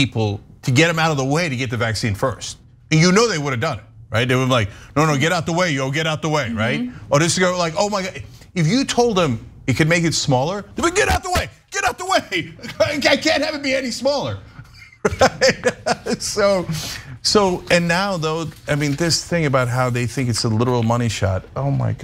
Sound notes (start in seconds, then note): 14.5 laugh